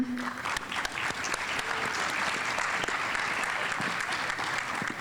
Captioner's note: audience applauding